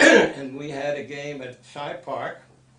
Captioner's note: coughs